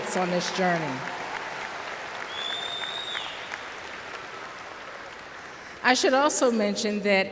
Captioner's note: applause